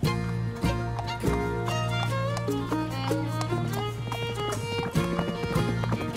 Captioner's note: horse hooves clopping; somber Western music